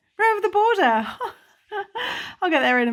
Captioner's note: laughs